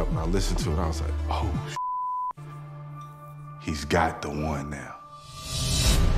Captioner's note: beep